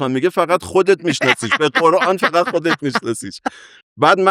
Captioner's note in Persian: خنده